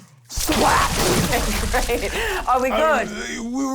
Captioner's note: splat